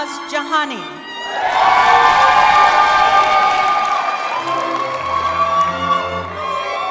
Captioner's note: cheering